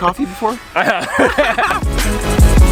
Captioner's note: laughs